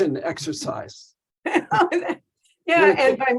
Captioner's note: laughing